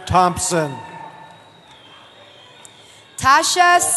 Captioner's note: cheering